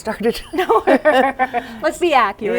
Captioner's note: laughter